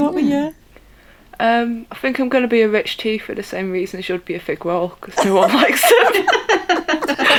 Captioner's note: laughter